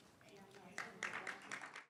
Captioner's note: audience applauding